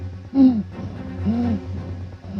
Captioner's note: panting